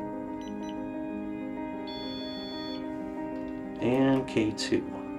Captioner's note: REM pod beeps